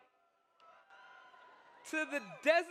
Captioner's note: audience cheers